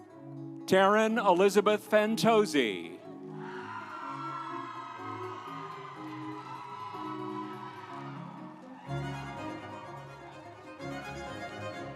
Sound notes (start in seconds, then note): 3.3 audience cheering; 8.8 instrumental music